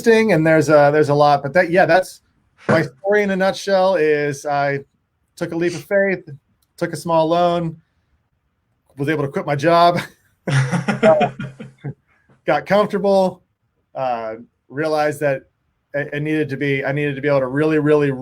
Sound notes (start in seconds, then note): 10.4 both laughing